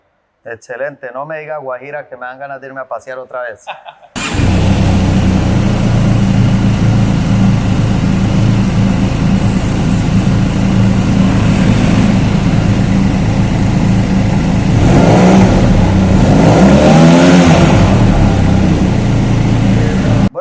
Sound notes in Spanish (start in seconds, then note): 3.7 Sonido del Motor